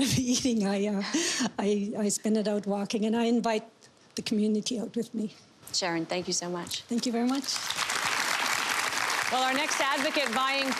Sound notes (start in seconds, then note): 8.9 applause